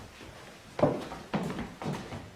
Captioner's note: shoes clicking